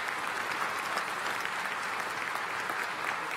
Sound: applause

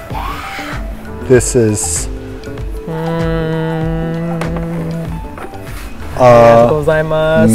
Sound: speaking in foreign language

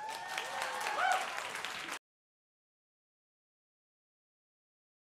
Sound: audience cheers and applauds

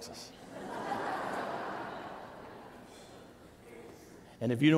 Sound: congregation laughing

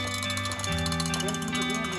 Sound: bell clanging

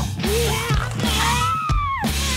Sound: bones crunching

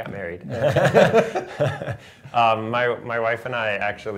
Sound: laughter

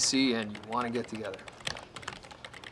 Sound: clicks of typing

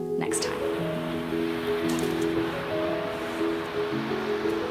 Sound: waves breaking

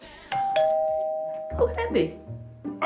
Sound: doorbell rings

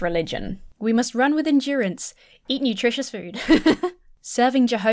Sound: laughs

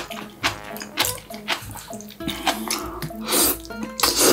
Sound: laughs

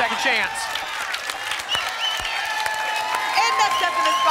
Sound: applause and cheering

